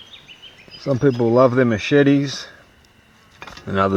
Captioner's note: voiceover